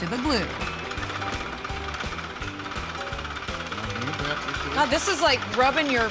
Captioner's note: knocking, rattling sound